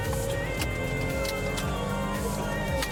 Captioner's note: siren blaring